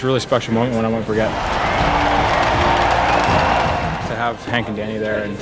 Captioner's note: crowd cheers